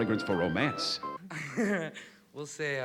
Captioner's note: chuckles